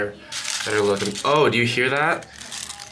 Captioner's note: petals crackling